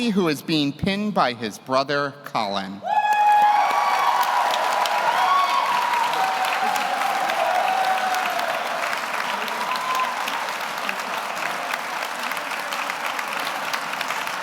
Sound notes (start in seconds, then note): 4.1 audience applauds; 4.1 audience cheers